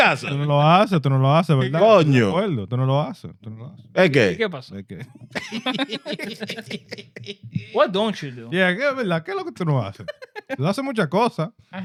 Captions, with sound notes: Okay. Okay. (Laughing) What don't you do? (Speaking In Foreign Language)